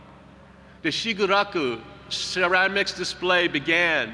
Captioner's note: speaking foreign language